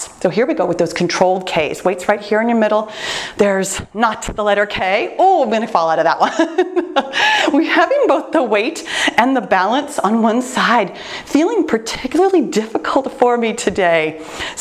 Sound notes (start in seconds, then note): 6.2 laughs